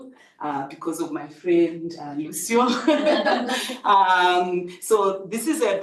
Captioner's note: people laughing